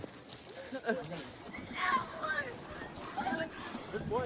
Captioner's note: yelling